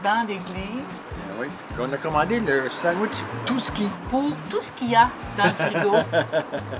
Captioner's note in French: rire